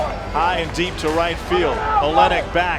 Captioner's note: voiceover